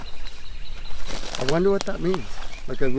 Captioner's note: birds chirping; crackling footsteps